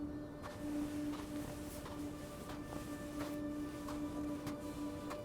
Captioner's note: footsteps thudding